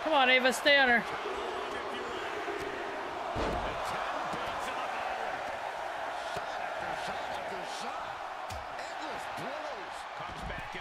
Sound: applause

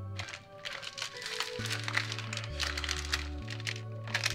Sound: package crinkling

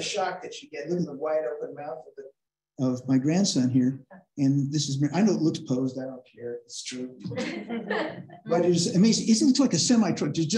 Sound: laughter

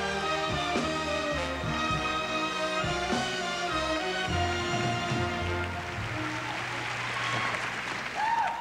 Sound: applause

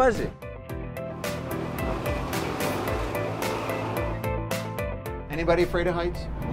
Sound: boat engine revs

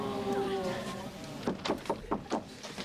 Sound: knock on door

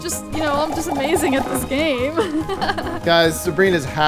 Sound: laughs

